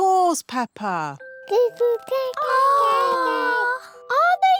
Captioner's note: babies gurgle